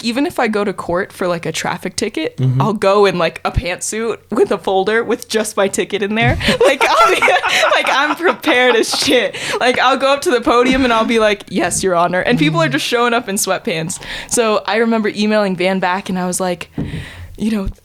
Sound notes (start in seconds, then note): 6.2 laughing